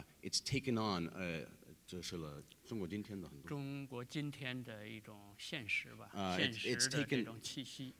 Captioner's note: speaking in Chinese